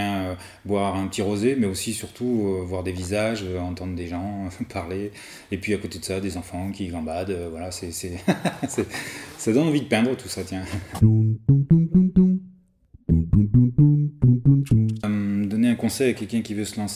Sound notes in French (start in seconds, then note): 8.2 rires